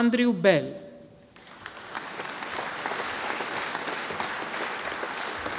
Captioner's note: audience applauding